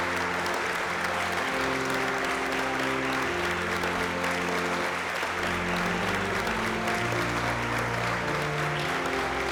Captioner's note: applause